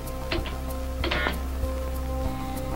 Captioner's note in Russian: гудок